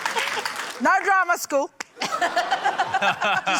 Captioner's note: laughs; laughter